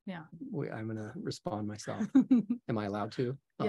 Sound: chuckling

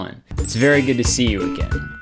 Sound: upbeat music; bells chiming

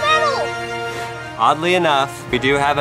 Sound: blows on golf ball

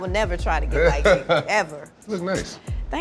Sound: laughs

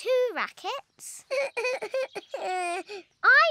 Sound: sobs

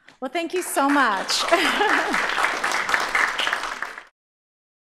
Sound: applause

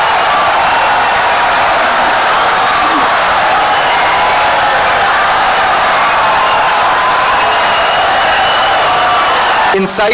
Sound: wild applause and cheering for 17 seconds

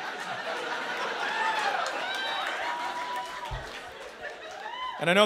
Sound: laughter; hooting and applause

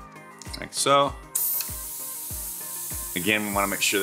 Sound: air hissing

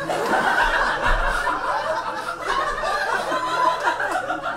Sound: audience laughs

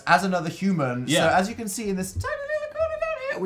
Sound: high pitch

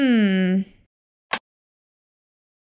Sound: click!

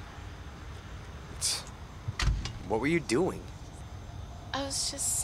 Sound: snorts

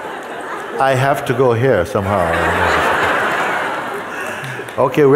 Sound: laughter

